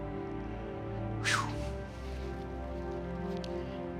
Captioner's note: exhales